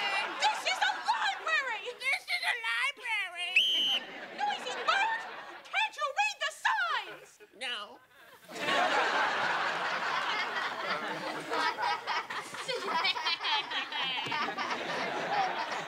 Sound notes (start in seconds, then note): 3.5 whistle blowing; 11.5 all laughing